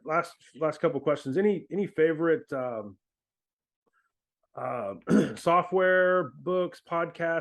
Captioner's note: clears throat